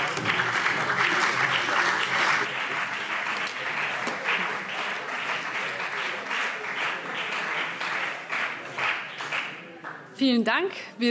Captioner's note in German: Beifall CDU und BÜNDNIS 90/DIE GRÜNEN